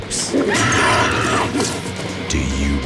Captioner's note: woman screams